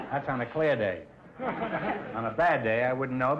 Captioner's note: audience laughter